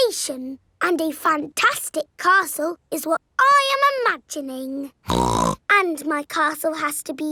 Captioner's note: snorts